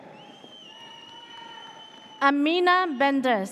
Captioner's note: audience cheers